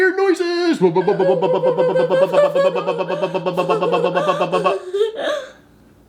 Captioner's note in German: macht komische Geräusche